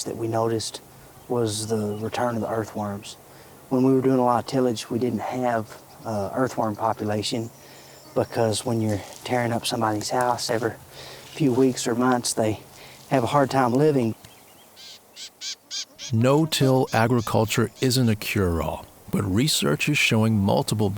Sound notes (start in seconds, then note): 14.4 birds squawking